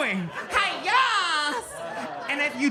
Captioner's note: audience laughs